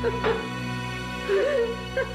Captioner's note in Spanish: sollozos